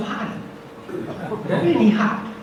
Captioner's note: audience laughs